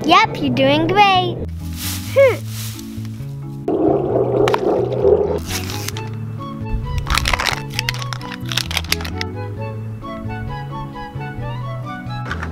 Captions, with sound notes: - Yep, you're doing great. - Hm. (plastic ripping)